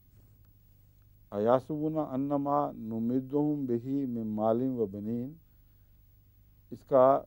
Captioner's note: Arabic